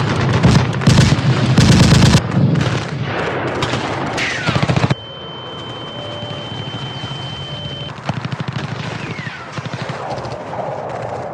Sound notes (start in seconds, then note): 4.9 high frequency squealing; 5.3 guns firing